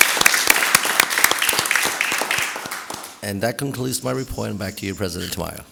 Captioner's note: applause